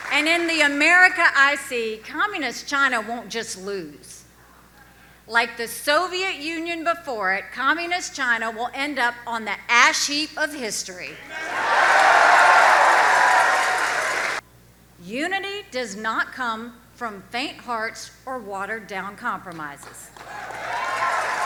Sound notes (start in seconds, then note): 11.2 audience cheers